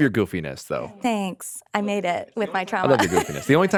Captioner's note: laughing